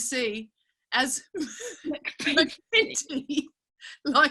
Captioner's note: laughing